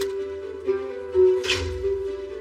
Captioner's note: door closeses